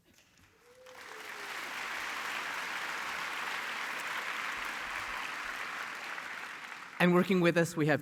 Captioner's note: applause